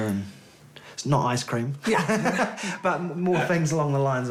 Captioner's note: laughs